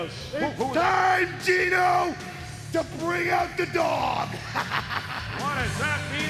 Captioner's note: laughs